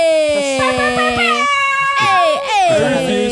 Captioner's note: imitates air horns